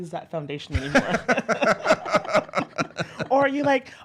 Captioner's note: laughs